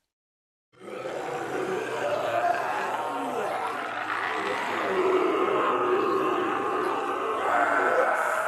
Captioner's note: zombies growling